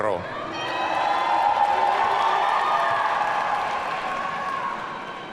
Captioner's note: audience cheering